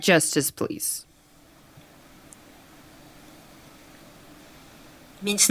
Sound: complete silence

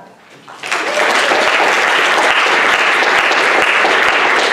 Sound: audience applauding

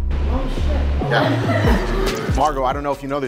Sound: laughing

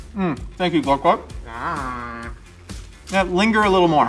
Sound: Glorp-Glorp exclaims

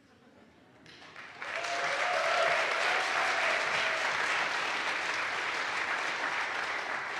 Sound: audience applauds; audience cheers

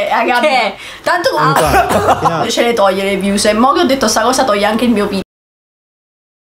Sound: coughs

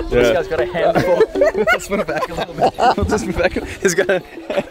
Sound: laughing

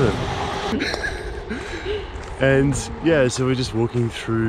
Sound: laughing

